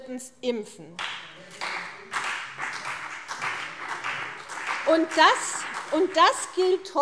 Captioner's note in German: Beifall CDU und BÜNDNIS 90/DIE GRÜNEN